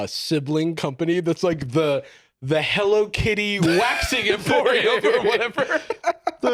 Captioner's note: laughs